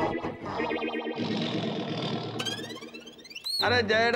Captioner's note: tiger roaring